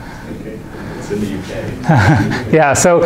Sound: chuckling

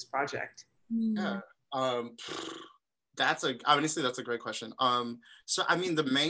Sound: blows raspberry

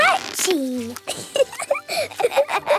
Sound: both laughing

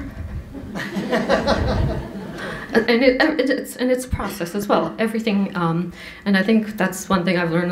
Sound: laughter

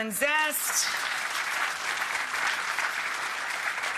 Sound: audience applauds

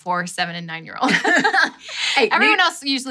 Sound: laughs

